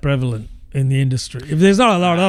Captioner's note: uh